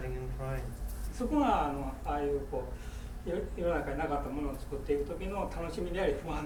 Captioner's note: speaking in foreign language